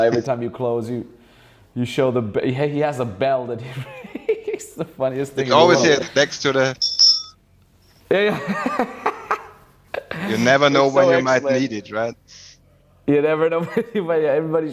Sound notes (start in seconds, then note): 6.7 bell rings; 8.0 laughs